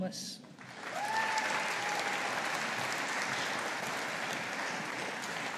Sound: audience applauding

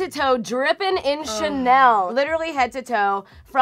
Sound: sighs

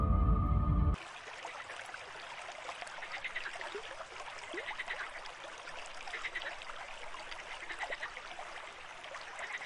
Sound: creek flowing, nature sounds

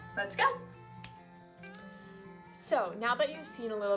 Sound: fingers snapping

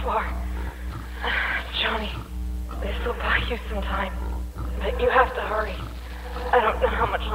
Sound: grunt

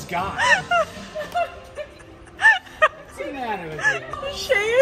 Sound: laughing

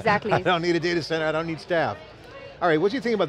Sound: laughs

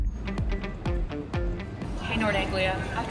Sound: street sounds

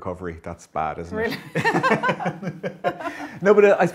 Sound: laughs

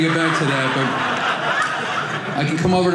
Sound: audience laughing

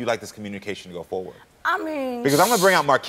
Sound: shushing

